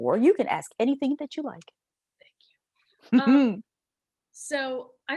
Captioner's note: chuckles